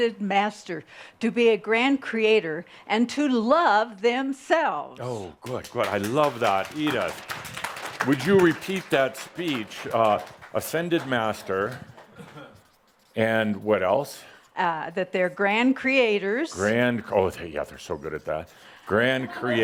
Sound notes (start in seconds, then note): 5.3 some applause